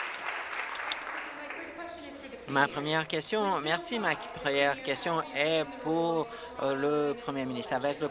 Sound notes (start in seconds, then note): 2.2 some Applause